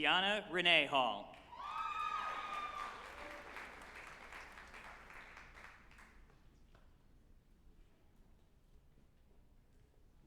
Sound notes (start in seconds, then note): 1.4 group applauding and cheering